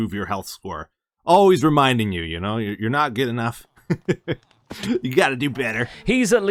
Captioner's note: chuckles